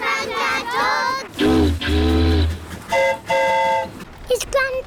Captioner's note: boat horn honks; train horn toots